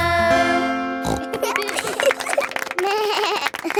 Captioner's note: snorts; laughing; bleats and laughs